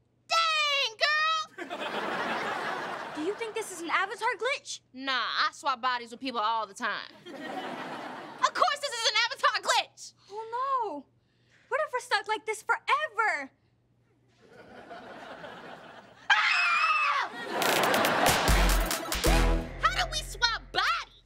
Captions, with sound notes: Dang, girl! - Do you think this is an avatar glitch? - Nah, I swap bodies with people all the time. Of course this is an avatar glitch! - Oh, no. What if we're stuck like this forever? [both scream] [upbeat music] - How did we swap bodies?